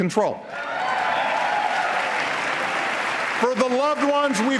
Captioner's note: applause